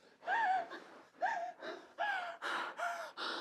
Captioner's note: woman gasping and sobbing